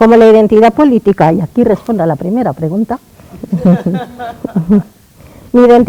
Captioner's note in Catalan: Riures